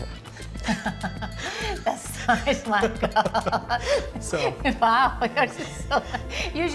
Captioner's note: laughing